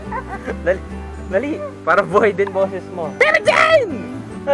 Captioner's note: screaming